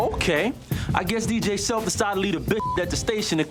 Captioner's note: beep